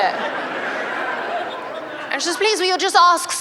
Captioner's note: laughter